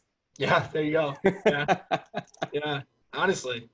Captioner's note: laughs